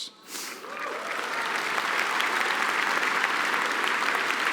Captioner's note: applause